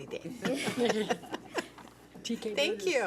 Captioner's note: laughs